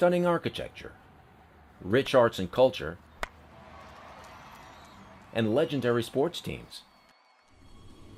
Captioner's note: crack of a bat